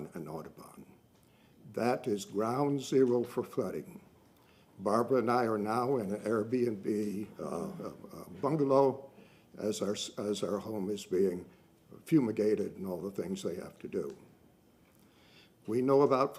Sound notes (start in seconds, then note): none